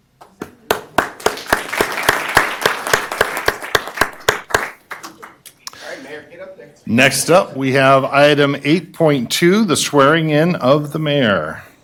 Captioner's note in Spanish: Aplausos